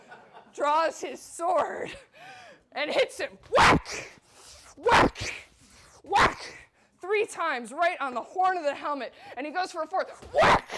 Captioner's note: whack, whack, whack